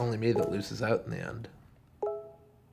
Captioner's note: computer beeping